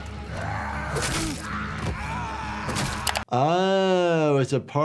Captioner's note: dramatic music; attacker and victim shouting